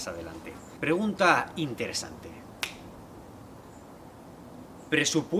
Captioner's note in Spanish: chasquido